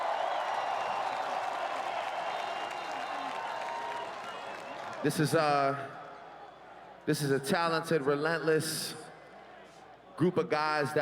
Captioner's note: cheering and Applause